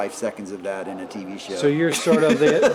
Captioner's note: laughing